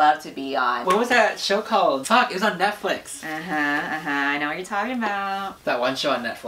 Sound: humming

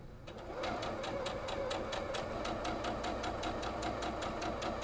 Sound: sewing machine humming

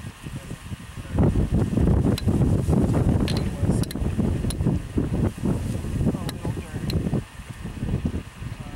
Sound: wind

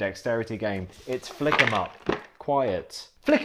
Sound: components crashing

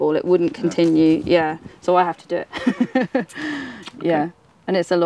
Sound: chuckles

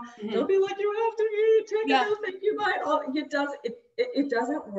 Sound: crying voice

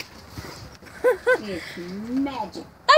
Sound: giggling

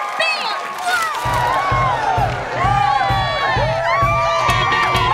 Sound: cheering

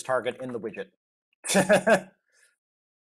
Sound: laughs

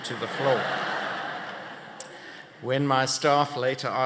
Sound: laughter

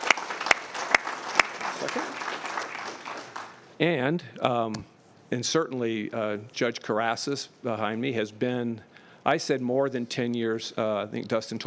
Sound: applause

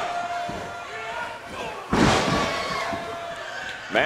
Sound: pounding

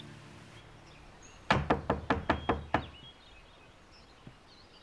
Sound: knocking

